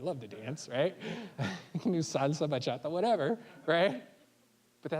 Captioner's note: chuckling